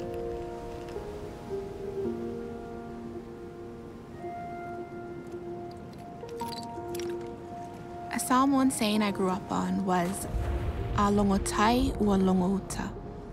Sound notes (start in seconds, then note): 5.6 rocks clink